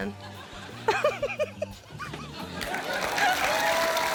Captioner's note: laughs